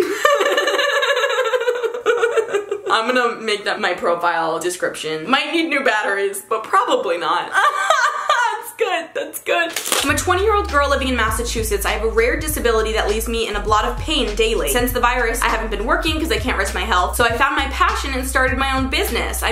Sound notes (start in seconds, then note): 0.0 laughs hysterically; 7.5 laughs